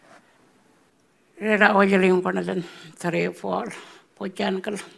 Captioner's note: speaking Anmatyerr